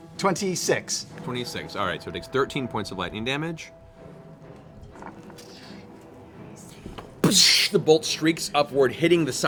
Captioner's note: blast